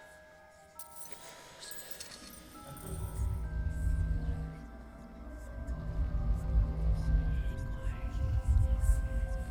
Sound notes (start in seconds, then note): 2.0 eerie whispering; 2.0 soft dramatic music